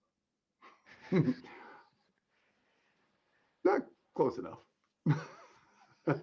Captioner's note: chuckling; laughter